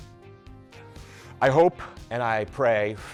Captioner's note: inhales